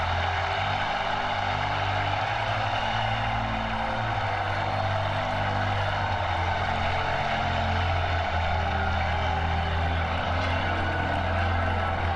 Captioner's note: cheers and applause